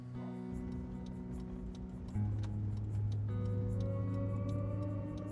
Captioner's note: gentle music continues; turn signal clicking